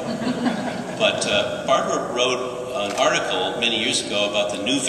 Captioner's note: laughter